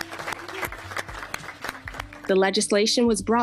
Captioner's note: applause